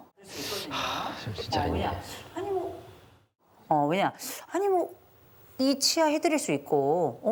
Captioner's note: sigh